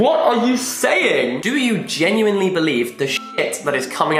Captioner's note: beep